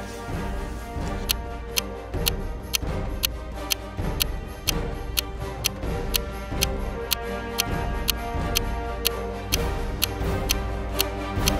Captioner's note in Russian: тиканье часов